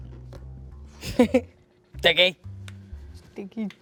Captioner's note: chuckles